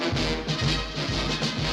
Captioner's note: horn